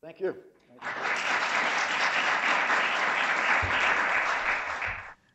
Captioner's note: audience applauds